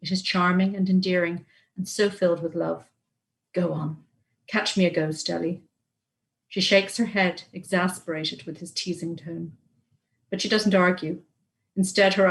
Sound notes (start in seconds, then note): none